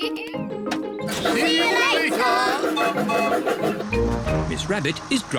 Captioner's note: laughs; toots whistle